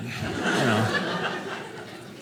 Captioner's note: audience laughing